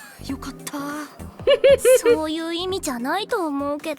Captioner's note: chuckles